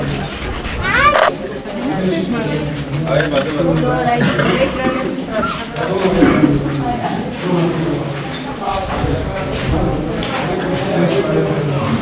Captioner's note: voices of tourists